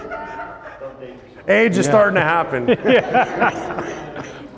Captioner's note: laughs